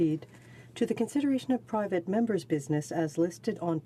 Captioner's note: speaking in french